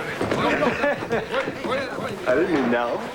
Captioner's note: laughing; murmurs of agreement